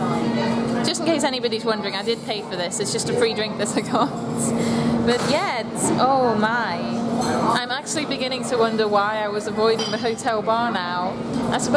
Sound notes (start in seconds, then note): 3.7 chuckles